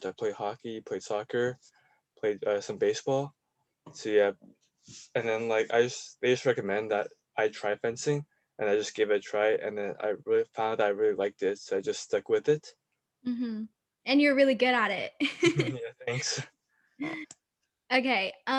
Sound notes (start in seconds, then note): 15.4 laughing